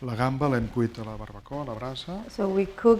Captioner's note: speaking spanish